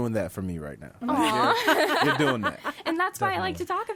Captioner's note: laughs